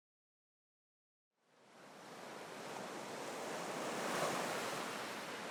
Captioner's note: waves crashing